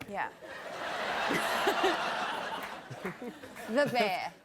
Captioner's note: laughter